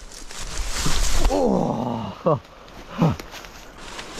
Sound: groans

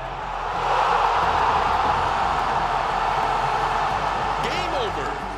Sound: crowd roaring

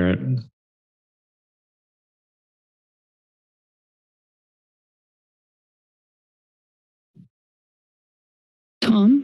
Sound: silence

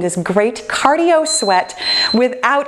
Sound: timer beeping

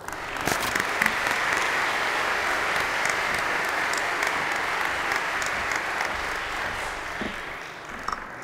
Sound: applause

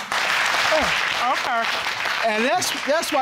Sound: audience clapping

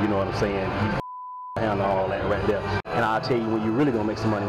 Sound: beep

